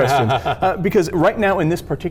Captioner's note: laughs